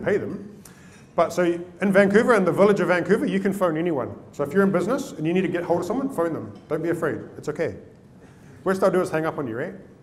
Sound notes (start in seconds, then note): none